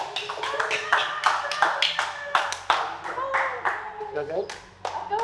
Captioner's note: contestants clapping